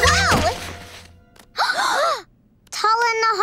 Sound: gasping

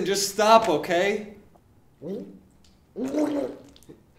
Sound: gurgling

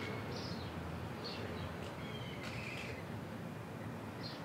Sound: birds chirping

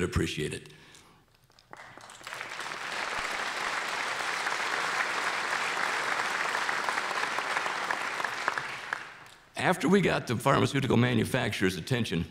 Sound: applause

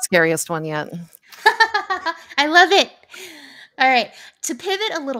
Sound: laughs

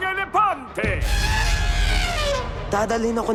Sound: elephant trumpets

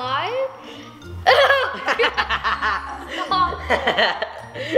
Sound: laughs

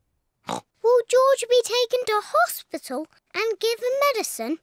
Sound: oinks

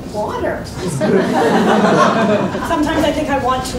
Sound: laughs

